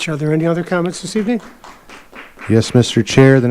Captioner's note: audience applauding